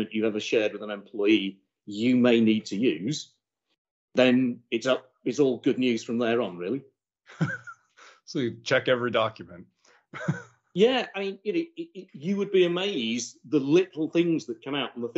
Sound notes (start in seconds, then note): 7.3 laughs